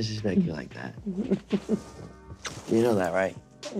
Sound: laughing

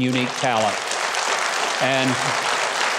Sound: audience clapping; audience applauding

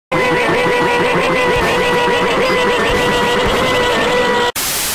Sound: high Pitched Quacks

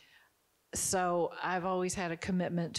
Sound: none

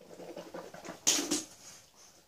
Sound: spit

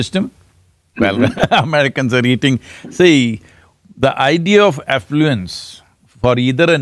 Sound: laughs

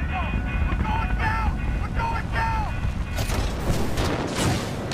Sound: radio

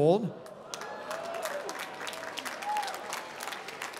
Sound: applause

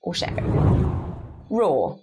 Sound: screen whooshes

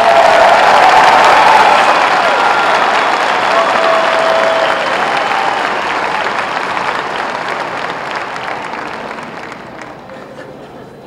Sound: applause

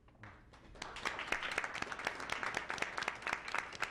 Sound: clapping

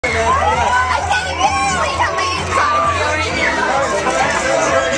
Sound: fans chatting

